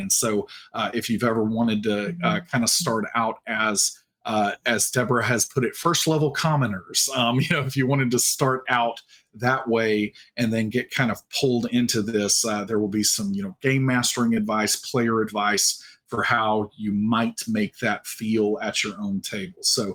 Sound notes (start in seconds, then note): 7.0 chuckling